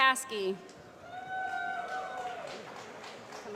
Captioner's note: applause